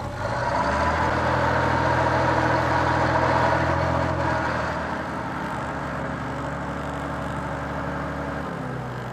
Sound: diesel engine noise

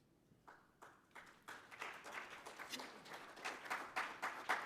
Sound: applause

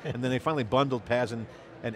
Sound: laughs

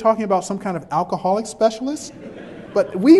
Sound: background chuckles

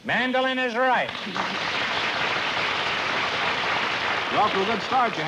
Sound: applause

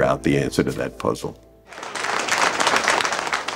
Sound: applause

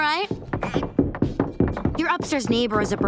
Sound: banging

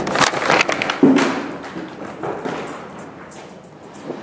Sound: sounds of hard drive being put in envelope; footsteps

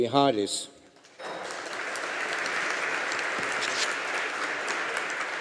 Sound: audience applauding

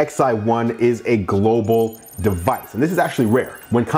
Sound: bells chiming

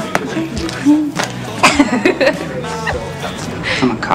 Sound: Robin laughs

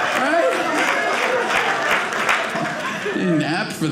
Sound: audience clapping

